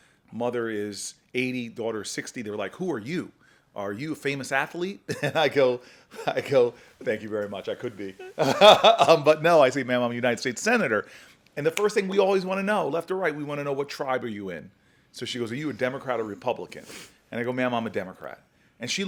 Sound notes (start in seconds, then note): 5.1 chuckles; 8.0 laughs